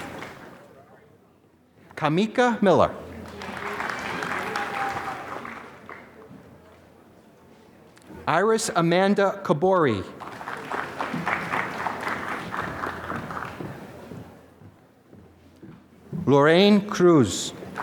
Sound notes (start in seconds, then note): 3.1 applause; 10.1 applause; 17.7 applause